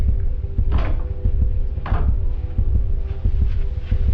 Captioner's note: heart beating